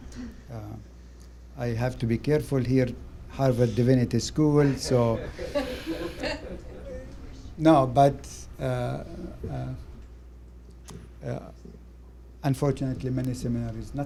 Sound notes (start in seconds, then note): 4.7 laughter